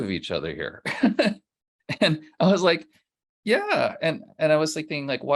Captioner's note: laughs